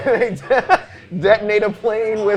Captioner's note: laughing